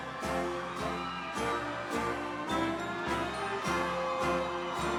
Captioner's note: audience cheering